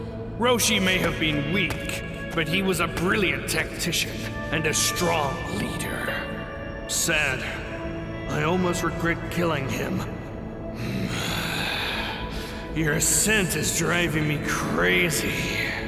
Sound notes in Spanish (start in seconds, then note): 10.6 Gruñidos